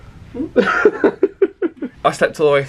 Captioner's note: laughs